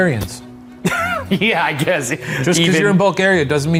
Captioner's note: laughs